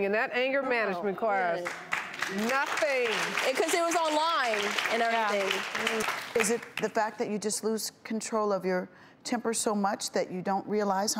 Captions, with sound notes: in that anger management class. Nothing. (audience applauds) - 'Cause it was online and everything. - Is it the fact that you just lose control of your temper so much that you don't realize